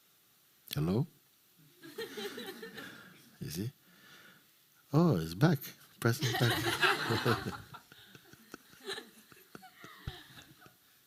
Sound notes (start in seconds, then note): 1.8 laughter; 6.2 laughter